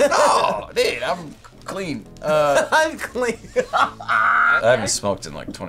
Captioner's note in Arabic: يضحك